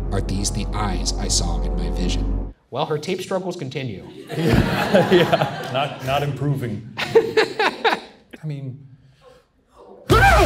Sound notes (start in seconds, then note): 4.2 Shane and audience laugh; 7.0 Ryan laughs